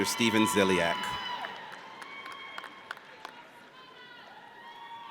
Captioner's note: audience cheers